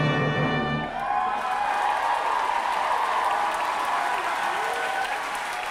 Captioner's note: applause